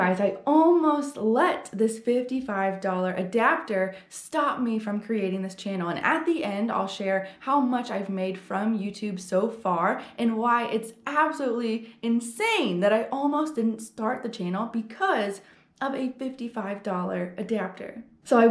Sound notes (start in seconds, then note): none